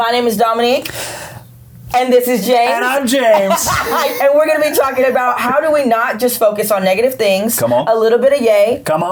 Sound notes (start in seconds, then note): 3.3 both laughing